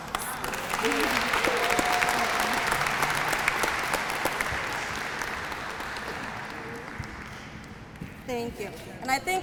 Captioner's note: applause